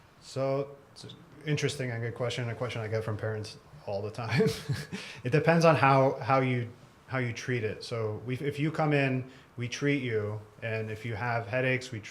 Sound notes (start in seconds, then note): 4.3 laugh